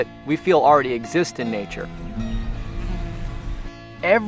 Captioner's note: bee buzzes